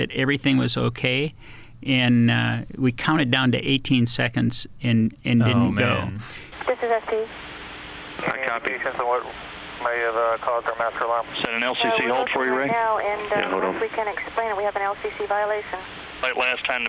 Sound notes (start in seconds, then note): 8.5 radio chatter